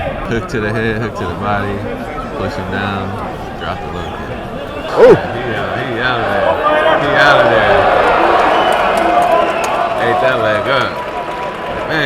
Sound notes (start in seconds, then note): 6.1 audience cheering